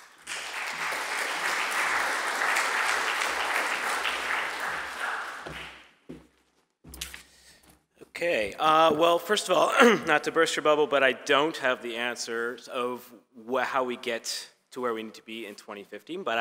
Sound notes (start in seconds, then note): 0.0 audience applauding; 9.6 clears throat